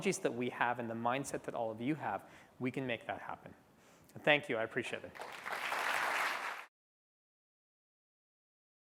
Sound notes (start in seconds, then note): 5.1 applause